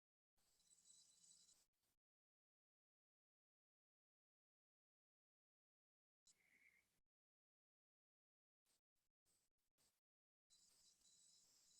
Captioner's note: silence while everyone is getting ready and connected